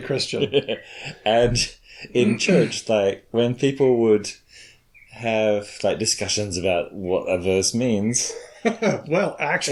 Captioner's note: chuckles; chuckles